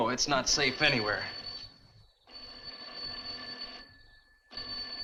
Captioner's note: telephone rings